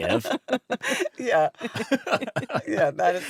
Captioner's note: laughs